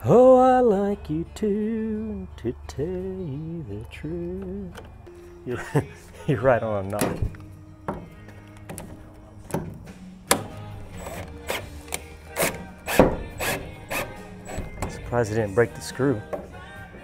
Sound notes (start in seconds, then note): 13.3 drill spinning